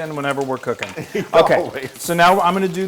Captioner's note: laugh